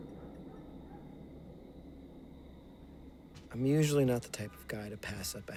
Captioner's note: distant dog barking